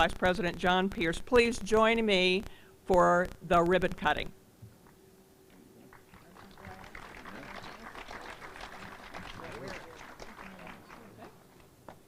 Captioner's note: applause